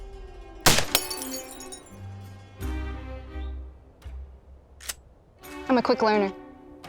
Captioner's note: gunshot; bottle shatters